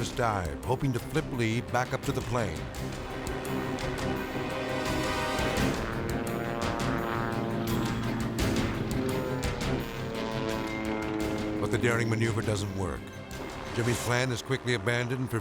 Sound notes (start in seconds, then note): 2.8 airplane roaring; 2.8 tense music